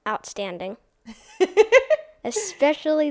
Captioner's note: laughs